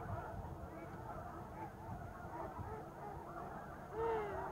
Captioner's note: birds squawking